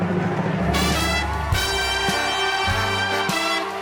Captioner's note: audience applauding